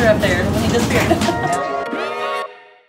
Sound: laughs

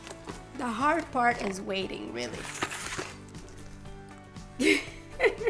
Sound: laughs

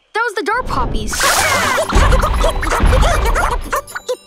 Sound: banging

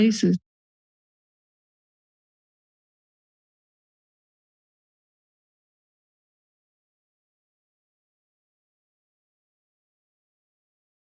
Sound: silence

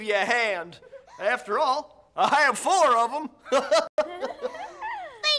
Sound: laughs

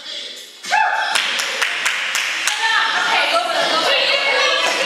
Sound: applause and cheering

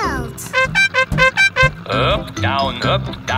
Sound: horn beeping

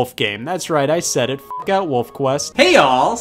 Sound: beep

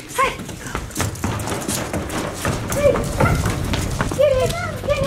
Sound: stomping on decking

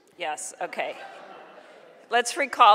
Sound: audience laughing

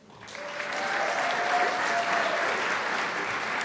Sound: crowd applauds

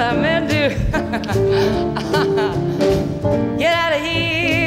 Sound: laughs

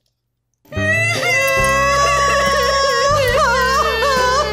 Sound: both crying

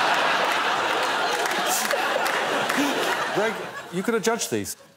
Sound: laughter

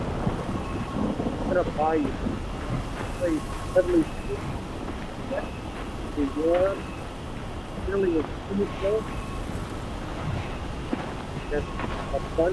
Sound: wind and slow footsteps, low grunting

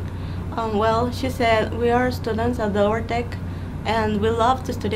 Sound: in English

